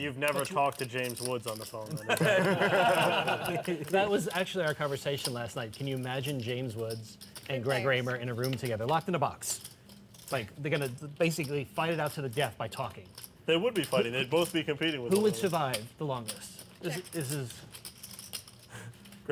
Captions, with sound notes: - So you've never talked to James Woods on the phone. (laughter) - That was actually our conversation last night. Can you imagine James Woods and Greg Raimer in a room together, locked in a box. They're gonna fight to the death by talking. - They would be fighting, they would both be competing-- - Who would survive the longest?